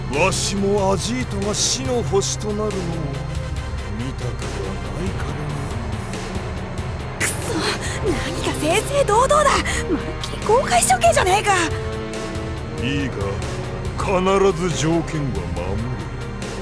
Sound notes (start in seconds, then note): 7.5 whisper